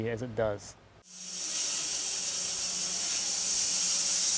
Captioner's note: saw whirring